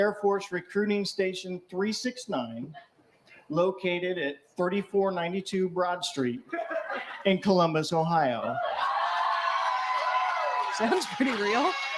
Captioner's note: cheering